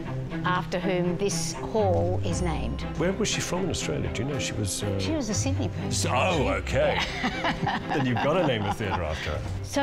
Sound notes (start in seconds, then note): 6.9 laughter